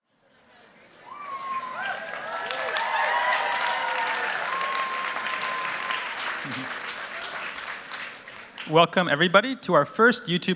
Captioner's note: cheers and applause